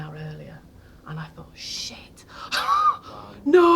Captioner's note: laughing